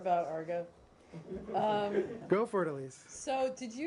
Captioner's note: laughter